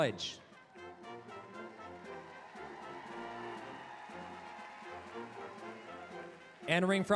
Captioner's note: applause, cheering